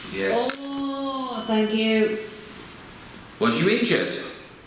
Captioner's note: device beeps